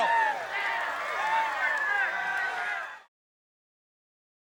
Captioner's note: audience cheering